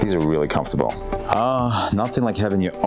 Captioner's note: sighs